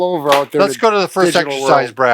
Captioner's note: card plops